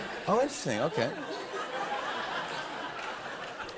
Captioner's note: laughter